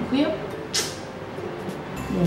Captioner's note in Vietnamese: tặc lưỡi